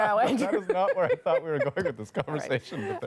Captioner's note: laughter